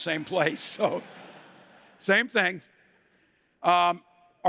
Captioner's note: laughter